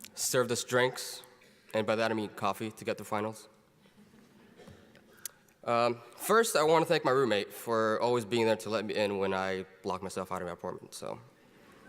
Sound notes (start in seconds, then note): 3.9 audience laughs quietly; 11.6 audience laughs